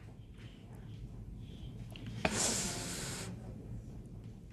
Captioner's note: sniffles